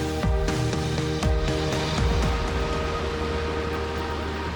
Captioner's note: water rushing